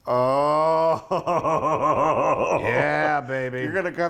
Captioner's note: laugh